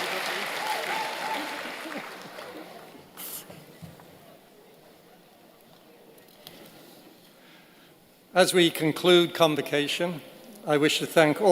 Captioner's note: applause